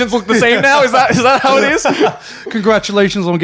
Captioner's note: chuckles